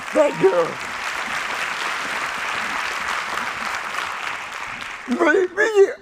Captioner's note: applause